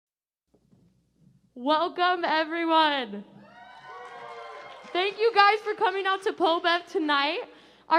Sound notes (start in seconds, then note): 3.4 cheers